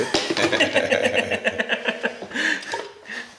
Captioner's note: laughs